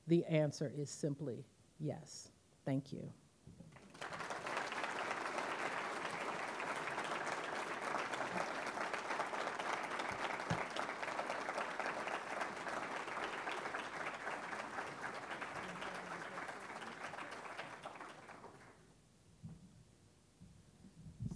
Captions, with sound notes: The answer is simply yes. Thank you. (audience applauding)